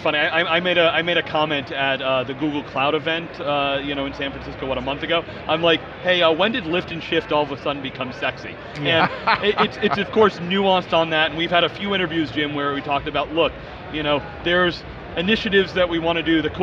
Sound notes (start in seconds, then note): 8.8 laughs